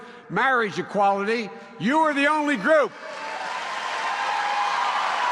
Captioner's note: applause